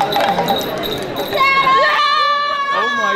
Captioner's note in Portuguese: Gritos